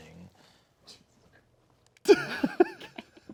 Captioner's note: snickering; laughing